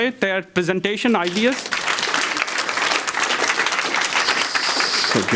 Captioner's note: audience claps